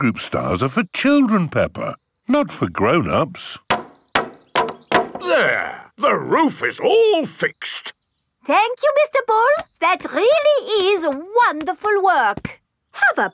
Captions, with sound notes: Playgroup stars are for children, Peppa, not for grown-ups. (HAMMERING) There. The roof is all fixed. Thank you, Mr. Bull. That really is wonderful work!